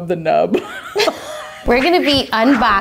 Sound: laughing

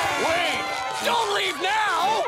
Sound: cheering

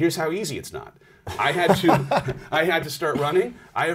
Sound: laughs

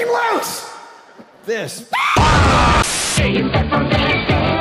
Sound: screaming with bahh

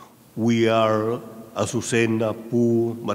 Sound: speaking in a foreign language

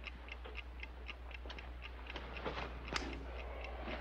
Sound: clock ticking

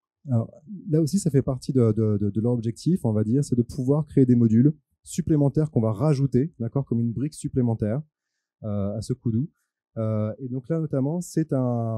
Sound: translating into french

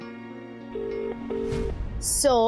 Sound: phone rings

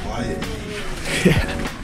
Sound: laugh

